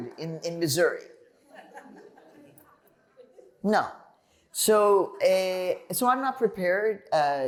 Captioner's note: laughter